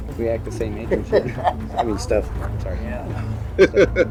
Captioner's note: both laughing